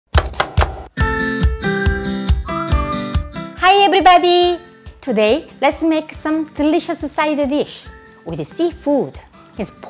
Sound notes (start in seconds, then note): 0.1 chopping; 0.1 upbeat music